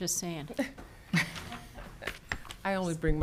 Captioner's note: speakers laughing